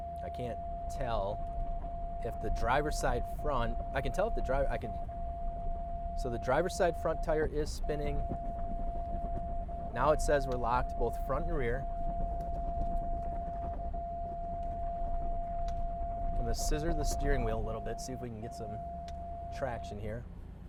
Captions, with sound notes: I can't tell if the driver's side front... I can tell if the driver... So the driver side front tire is spinning. Now it says we're locked both front and rear. (car instruments beeping) I'm gonna scissor the steering wheel a little bit, see if we can get some traction here.